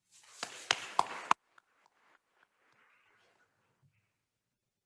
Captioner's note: attendees applauding